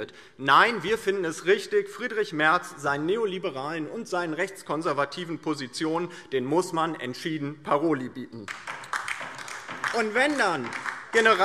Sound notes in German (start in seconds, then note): 8.4 Beifall DIE LINKE